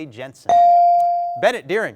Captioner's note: bell dings